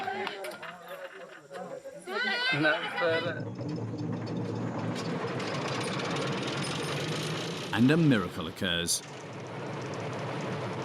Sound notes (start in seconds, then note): 3.1 train engine starting